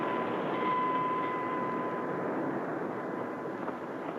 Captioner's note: bell clangs